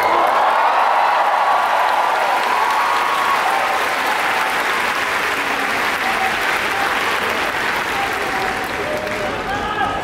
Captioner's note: the audience cheered for her